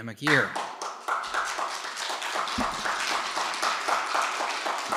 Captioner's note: audience applauding